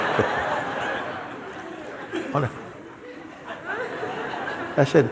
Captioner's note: laughter